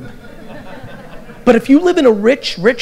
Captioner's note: audience laughter